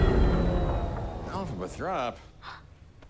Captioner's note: machine powers down; gasps